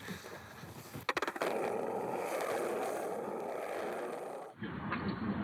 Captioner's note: the sound of skating